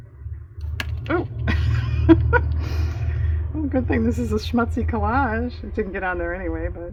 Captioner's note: laughs